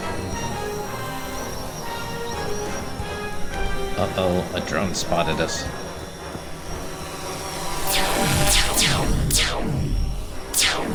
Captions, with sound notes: Uh oh, a drone spotted us. (drone whirring) (lasers zapping)